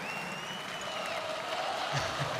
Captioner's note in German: Gelächter